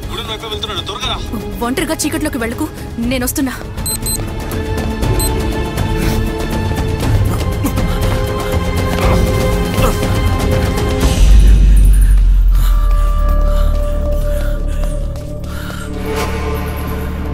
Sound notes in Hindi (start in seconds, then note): 12.2 हांफते हुए